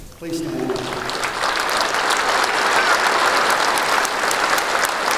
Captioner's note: applause